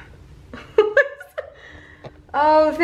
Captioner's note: laughs